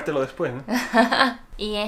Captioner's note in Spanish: Risas